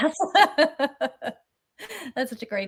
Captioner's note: laughter